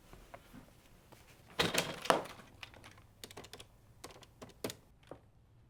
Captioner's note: phone jangles and clicks